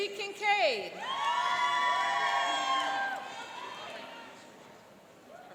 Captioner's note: cheering and applauding